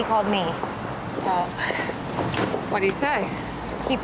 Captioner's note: sighs